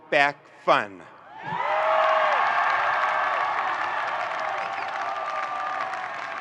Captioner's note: audience cheering and applauding